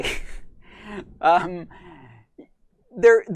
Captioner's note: laughs